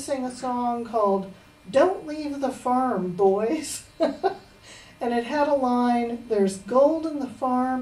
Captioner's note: laughs